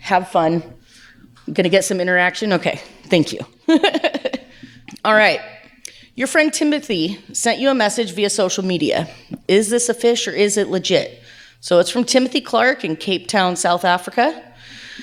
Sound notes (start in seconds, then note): 3.7 laughs